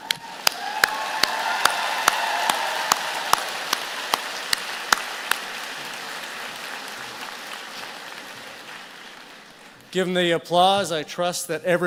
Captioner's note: applause